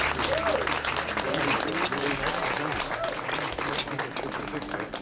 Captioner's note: audience applauding; people chattering